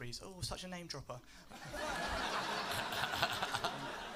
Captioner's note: laughter